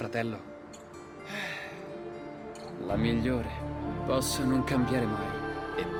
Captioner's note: sighs